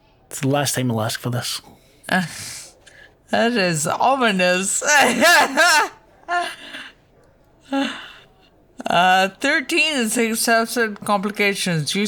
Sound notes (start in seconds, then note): 7.1 laughs